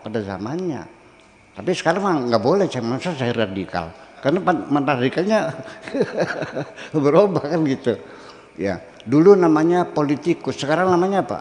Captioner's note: laughter